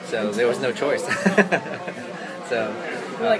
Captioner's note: laughs